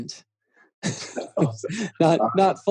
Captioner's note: laughing